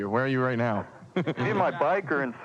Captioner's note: laughs